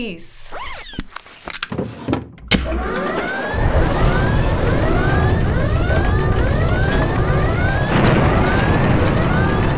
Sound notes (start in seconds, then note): 0.4 zipping, clicking, and sliding noises; 2.6 alarms blare; 2.6 wood and glass rustling and clinking; 7.9 rocket engines fire